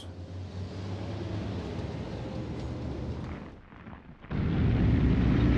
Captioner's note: vehicles rumbling